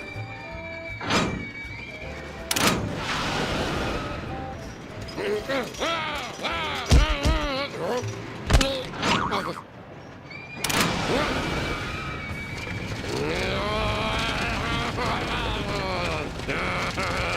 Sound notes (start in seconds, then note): 0.2 riders screaming; 6.1 shouting; 13.5 growling